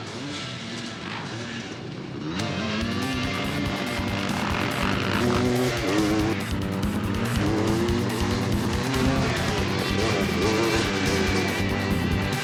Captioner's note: loud roar of engines